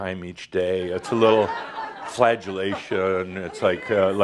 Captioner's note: some laugher